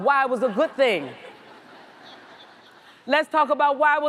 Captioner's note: audience laughs